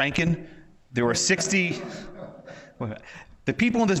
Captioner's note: audience members laughs